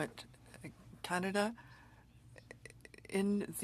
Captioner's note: speaking French